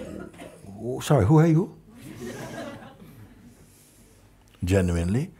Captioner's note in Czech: smích